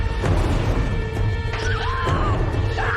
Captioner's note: screaming, grunting